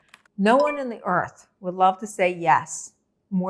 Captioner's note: bell tingling